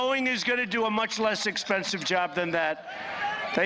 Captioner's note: applause